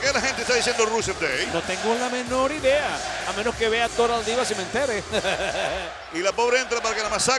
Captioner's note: laugh